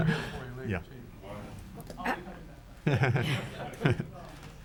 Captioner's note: chuckles